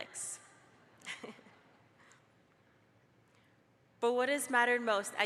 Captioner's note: laughs